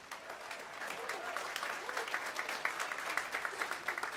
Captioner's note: audience applauds